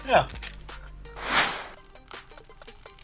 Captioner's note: animation whooshes; pie crunching; upbeat music